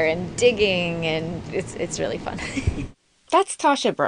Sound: laughs

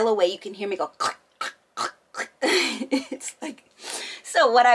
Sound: clicking tongue

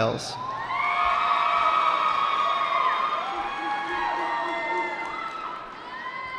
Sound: cheering

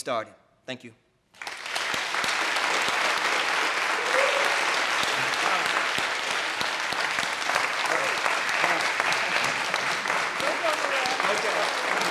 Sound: applause

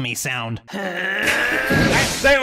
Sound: alchemy sounds

